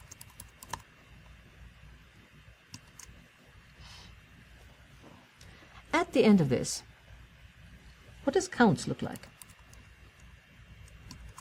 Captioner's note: pause